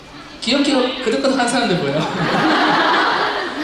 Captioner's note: chuckles